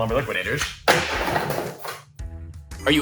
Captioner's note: wood clattering